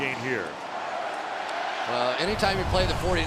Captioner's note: crowd chanting